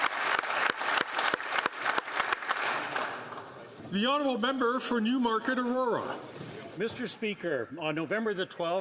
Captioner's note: some Applause